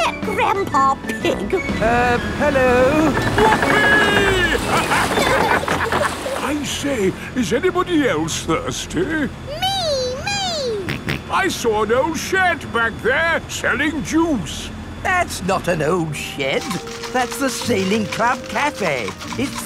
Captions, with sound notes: Is that Grandpa Pig? Uh... Hello. Whoopie! Ha-ha! I say, is anybody else thirsty? Me! Me! (SNORTS) I saw an old shed back there selling juice. That's not an old shed! That's the Sailing Club Cafe!